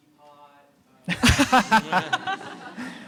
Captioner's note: laughter